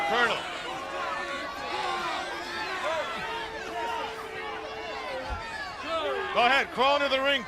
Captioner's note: crowd chatter